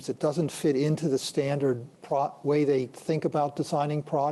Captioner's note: none